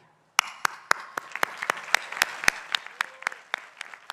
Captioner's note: people applauding